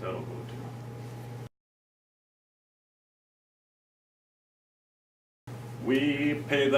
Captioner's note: silence